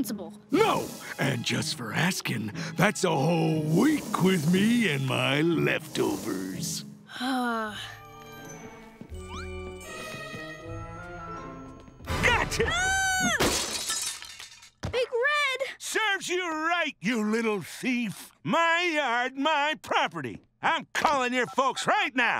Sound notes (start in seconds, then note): 6.6 sighs; 12.2 screams